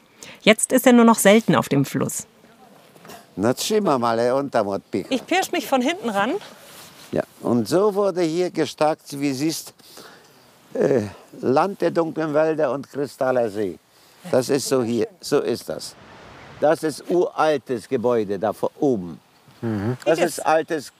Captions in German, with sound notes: Jetzt ist er nur noch selten auf dem Fluss. *Er redet polnisch.* Ich pirsch mich von hinten ran. Und so wurde hier gestakt, wie du siehst. Land der dunklen Wälder und kristallener Seen. So ist das hier. Das ist ein uraltes Gebäude da oben, ein altes Hotel.